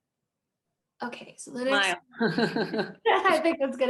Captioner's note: laughs